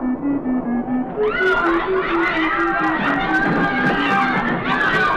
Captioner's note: people screaming